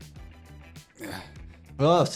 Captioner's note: character grunting